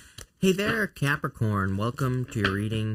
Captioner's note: cards shuffling